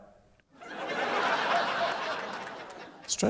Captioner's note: laughter